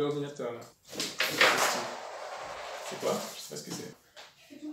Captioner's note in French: bruits de chute